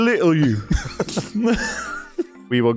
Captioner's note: laughter